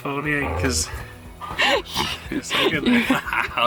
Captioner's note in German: lacht